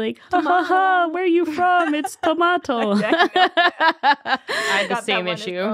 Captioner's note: laughing